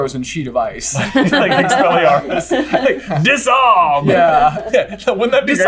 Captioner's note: laughter